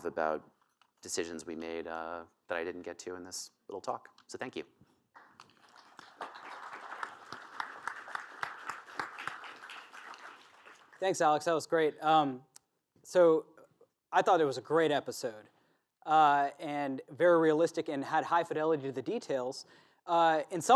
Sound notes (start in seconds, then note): 5.1 applause